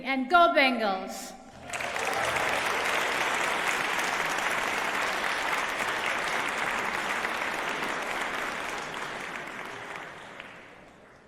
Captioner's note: applause